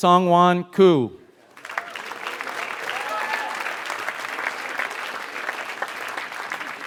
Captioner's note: applause